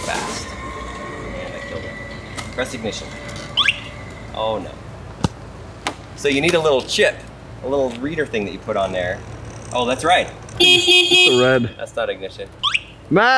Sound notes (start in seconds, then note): 3.5 bike beeping; 10.6 honking